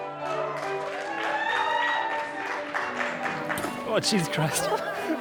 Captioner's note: guests cheering